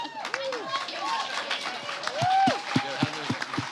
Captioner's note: applause